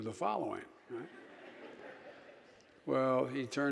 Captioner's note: audience laughing